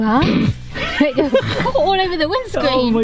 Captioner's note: laughing